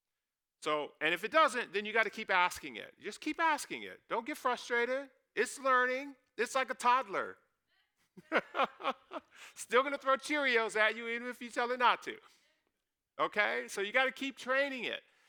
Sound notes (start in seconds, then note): 8.2 laughs